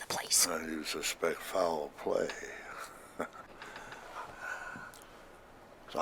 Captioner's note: chuckles